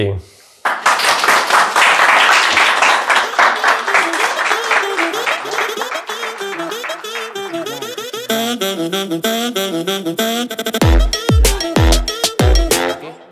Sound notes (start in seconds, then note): 0.6 audience clapping; 4.6 upbeat hip hop music